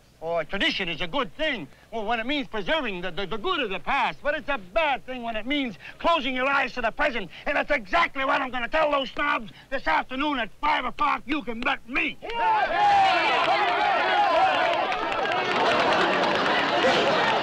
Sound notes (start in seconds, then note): 12.2 cheering